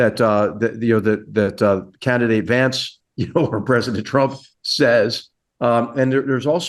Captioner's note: laugh